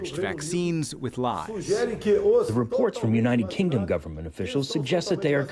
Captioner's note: through translator